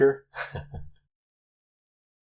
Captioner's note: chuckles